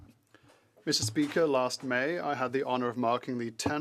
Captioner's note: speaking French